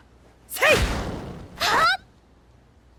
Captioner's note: grunt